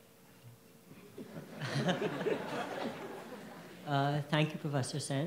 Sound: audience laughs

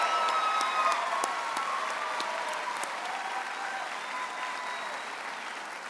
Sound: audience applauds and cheers

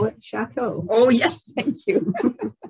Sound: laughter

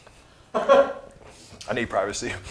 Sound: laughing

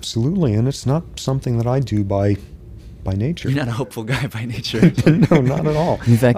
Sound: laughs

